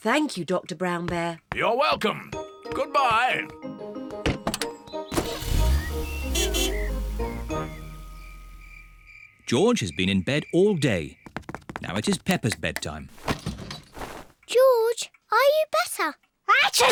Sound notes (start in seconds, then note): 5.1 horn honks